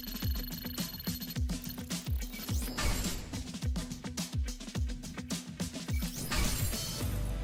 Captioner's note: none